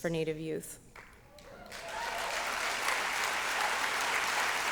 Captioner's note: applause